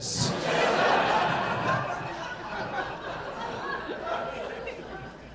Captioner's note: audience laughing